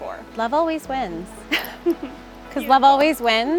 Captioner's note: chuckles